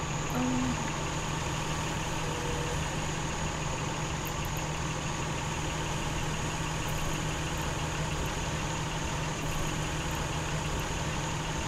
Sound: car idling

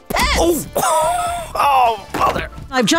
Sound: groans

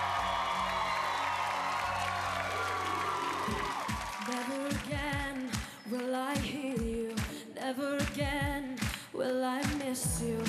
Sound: cheers and applause

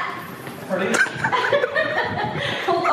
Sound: laughing

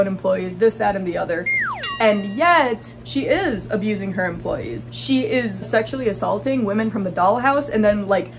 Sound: slide whistle

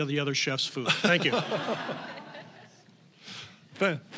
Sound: audience laughing

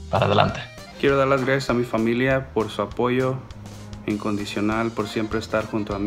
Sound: speaks in foreign language

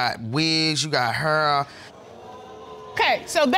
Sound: audience exclaims

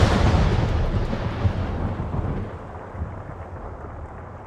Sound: thunderstorm, rain pouring

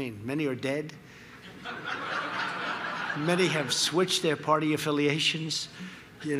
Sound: laughter

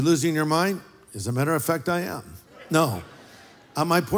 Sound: laughter

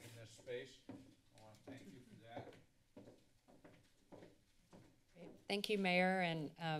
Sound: footsteps

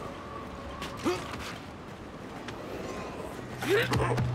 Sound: grunts

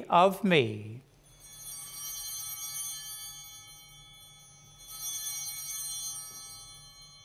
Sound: chimes ringing

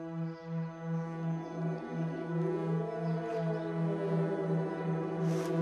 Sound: distant growls

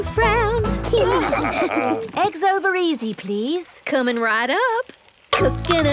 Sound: laughing

